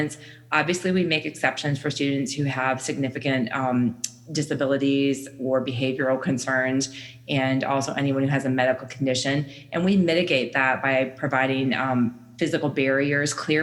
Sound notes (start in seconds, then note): none